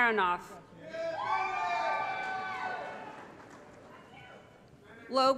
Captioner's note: applause & Cheering